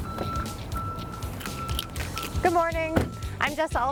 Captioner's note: car door opening; truck backing-up warning